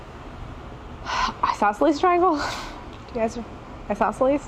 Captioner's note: sighs